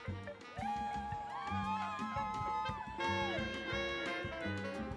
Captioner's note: cheering